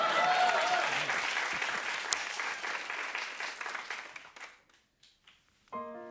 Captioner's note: cheers and applause; piano music plays